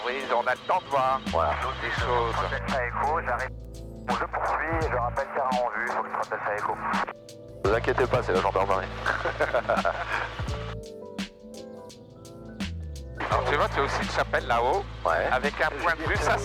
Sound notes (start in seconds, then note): 3.8 noise on the radio